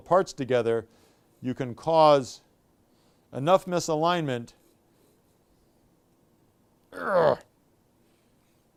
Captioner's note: grunts